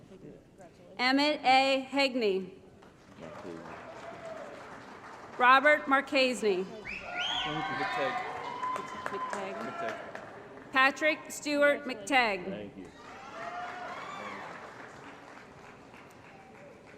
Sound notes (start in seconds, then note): 2.8 applause; 6.9 applause & Cheering; 12.9 applause